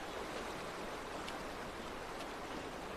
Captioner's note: sounds of the river running